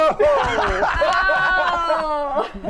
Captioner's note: laughing